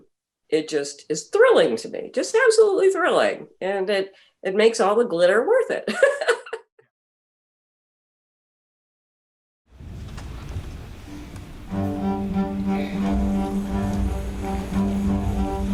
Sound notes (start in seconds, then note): 6.0 laughing; 12.0 gentle orchestral music